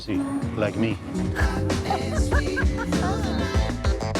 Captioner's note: laughs